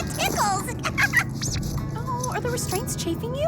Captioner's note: laughing